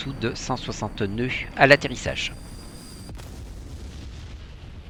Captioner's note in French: bruit d'avion